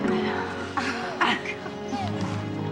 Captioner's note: both chuckling